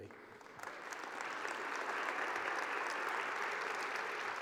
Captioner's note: applause